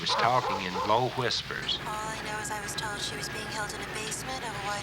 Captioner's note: on phone